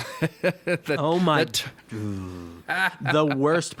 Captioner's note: chuckles; groans